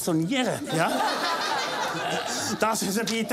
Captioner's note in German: lachen